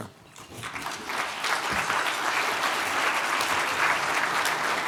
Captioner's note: attendees applauding